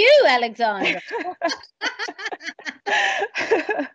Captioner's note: both laughing